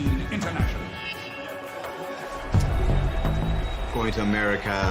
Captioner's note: crowd cheering and whistling